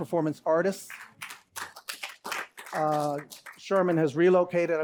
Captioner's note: applause